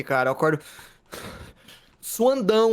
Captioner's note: wheezing